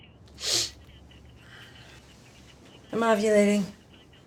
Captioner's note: sniffs